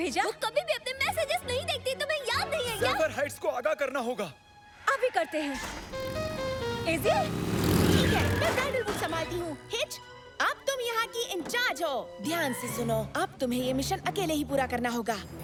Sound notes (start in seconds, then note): 5.6 melodic horn honking